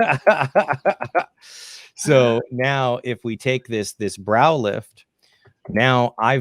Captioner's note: laughs